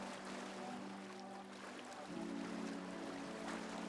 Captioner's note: wind